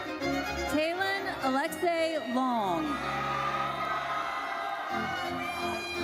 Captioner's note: audience cheers